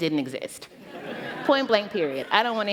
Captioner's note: laughter